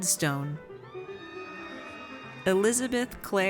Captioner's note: audience cheers